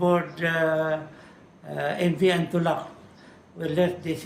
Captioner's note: foreign language